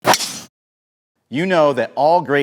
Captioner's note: club smacking